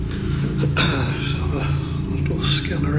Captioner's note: clears throat